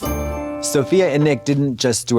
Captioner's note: bright chime